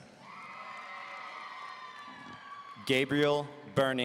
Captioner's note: audience cheering